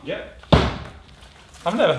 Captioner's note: bang